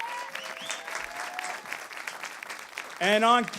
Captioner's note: applause